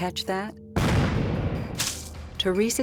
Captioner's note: gunshot